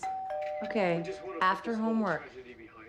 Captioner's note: doorbell ringing